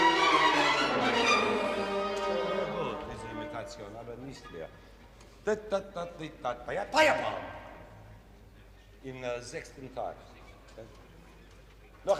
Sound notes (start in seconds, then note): 1.9 orchestra stopping; 3.2 speaking foreign language